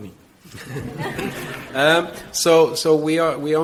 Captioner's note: audience laughs